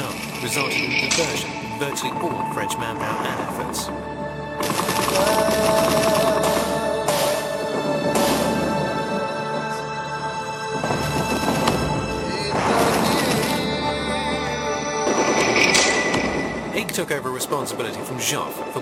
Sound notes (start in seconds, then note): 4.9 morose vocalizing; 5.9 artillery firing